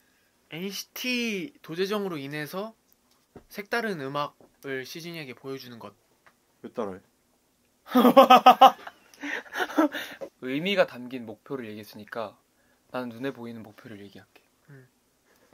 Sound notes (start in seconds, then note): 7.7 laughing